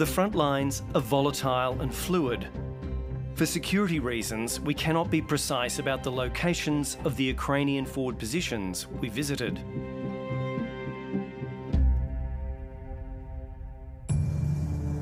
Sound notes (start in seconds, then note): none